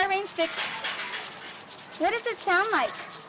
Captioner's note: brush-like noise